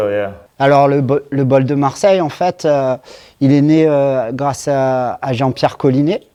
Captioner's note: speaking in foreign language